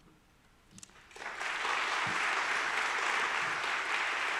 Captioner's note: audience claps